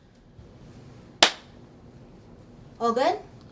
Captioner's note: golpes con las manos